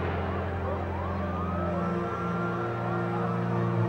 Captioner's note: sirens blaring